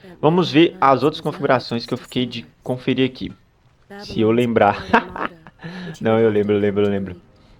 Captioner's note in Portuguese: risadas